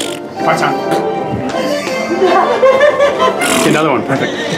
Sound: blows raspberries; blows raspberries

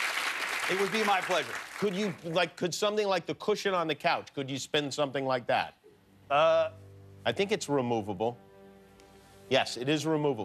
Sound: cheers and applause

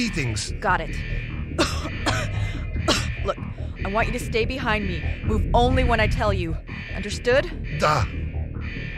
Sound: coughs

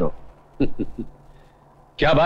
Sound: chuckling

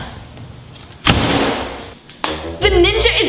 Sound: door closes

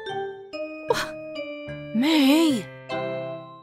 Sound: scoffs

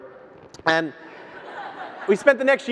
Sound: audience laughs

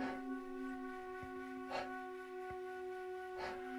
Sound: hard breathing

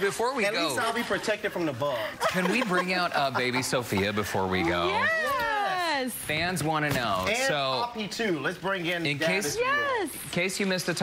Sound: laughter

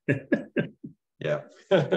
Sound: chuckling

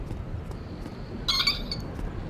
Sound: squeak

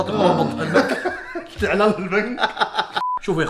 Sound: laughing

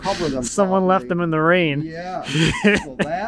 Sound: laughs

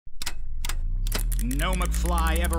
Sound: knobs clicking

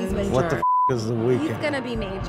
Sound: beep

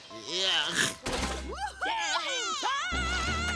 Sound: cheering

